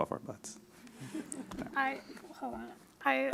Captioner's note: audience laughs